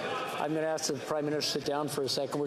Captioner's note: yelling